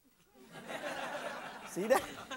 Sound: audience laughs

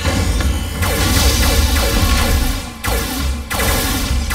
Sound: blasting

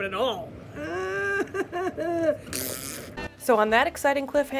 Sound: groan

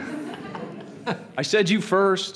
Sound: laughing

